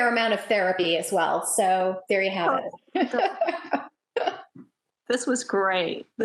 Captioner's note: laughs